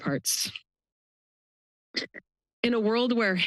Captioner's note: pause